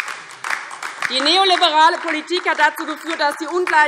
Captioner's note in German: Beifall DIE LINKE